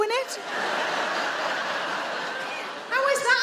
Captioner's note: audience laughing